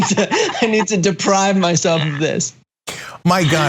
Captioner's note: laugh